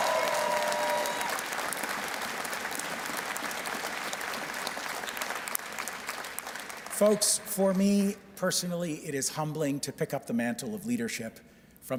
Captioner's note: cheers and Applause